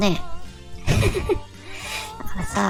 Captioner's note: laugh